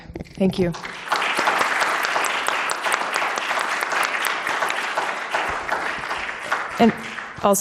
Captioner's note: applause